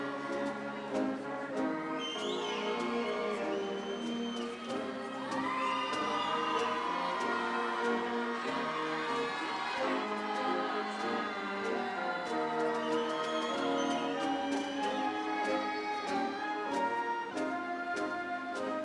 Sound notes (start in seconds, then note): 7.2 audience cheering; 7.2 upbeat ceremonial music